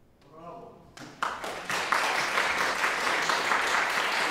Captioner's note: audience applauding